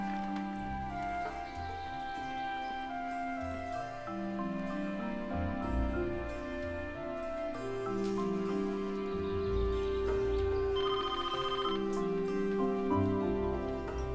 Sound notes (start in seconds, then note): 10.7 telephone rings